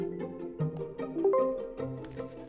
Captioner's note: low tone; bright chime